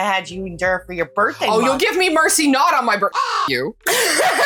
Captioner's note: caw